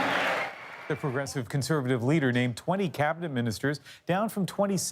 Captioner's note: cheers and applause